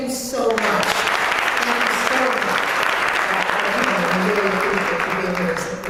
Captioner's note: applause